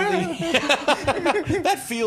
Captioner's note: laughing